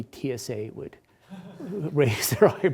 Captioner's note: attendees laughs